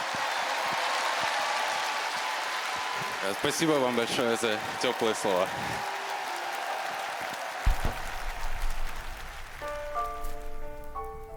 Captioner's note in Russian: аплодисменты; ликование